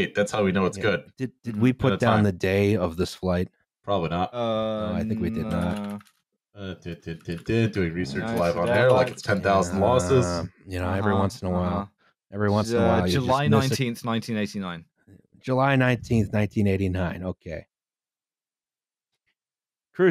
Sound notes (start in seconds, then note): 6.6 many keys tapping